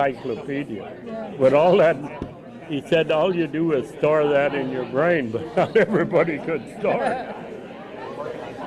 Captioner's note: laughs